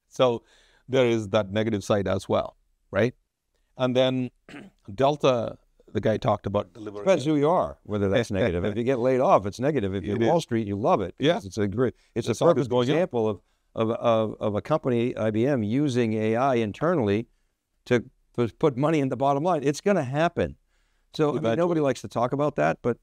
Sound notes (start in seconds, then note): 8.2 laughs